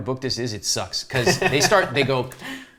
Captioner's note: laughs